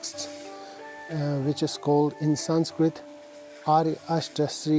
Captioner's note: speaks foreign language